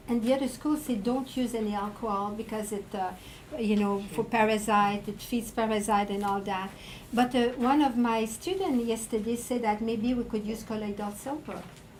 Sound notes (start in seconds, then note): none